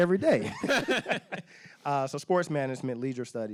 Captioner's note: laughing